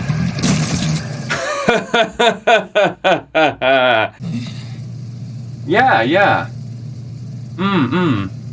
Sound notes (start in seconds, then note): 1.3 proud Laughter